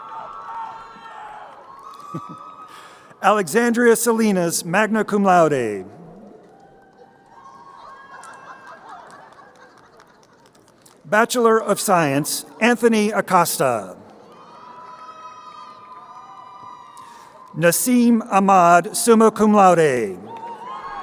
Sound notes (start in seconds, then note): 1.9 crowd cheering; 7.6 crowd laughing; 14.7 crowd cheering; 20.8 crowd cheering